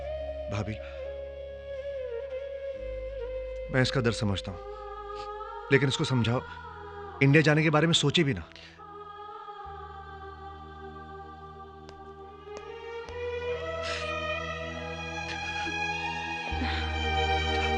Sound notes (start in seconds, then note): none